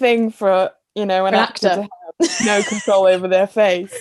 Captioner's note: they laugh